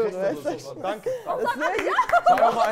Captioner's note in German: Lachen